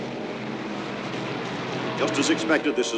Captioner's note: car engines roar